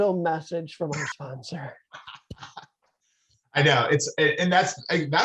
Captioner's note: laughing